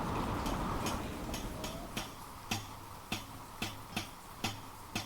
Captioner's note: tapping